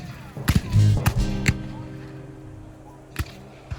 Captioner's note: guns fire